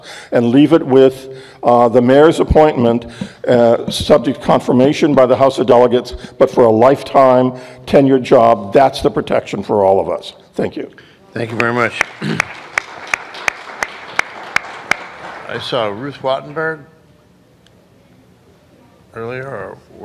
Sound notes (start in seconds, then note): 11.5 applause